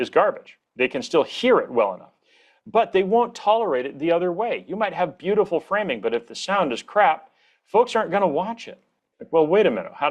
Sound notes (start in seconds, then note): none